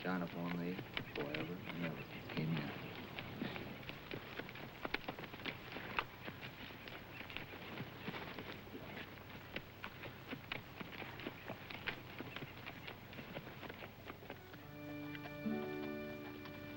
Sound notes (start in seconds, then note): 8.5 horse hooves clopping